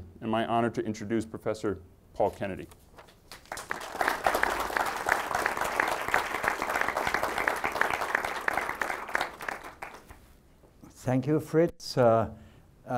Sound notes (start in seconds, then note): 3.0 audience clapping